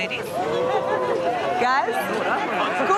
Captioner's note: crowd oohs